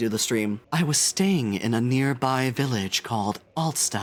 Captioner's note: deeper, breathier voice